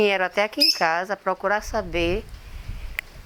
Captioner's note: bird tweets